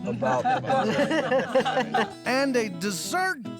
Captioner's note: laughter